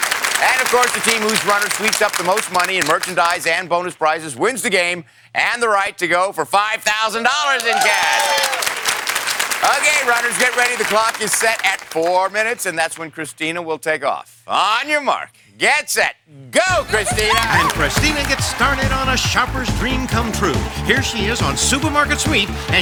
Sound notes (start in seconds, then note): 7.4 cheers and applause